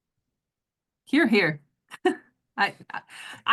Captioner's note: laugh